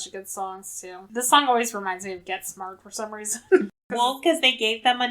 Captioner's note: laughs